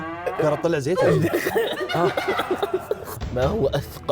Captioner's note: laughing